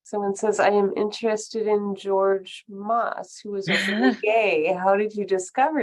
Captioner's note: laughter